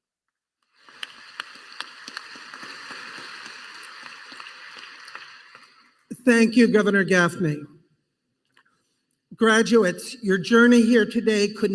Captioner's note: applause